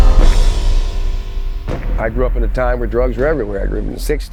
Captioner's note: dramatic underscoring; chains rattling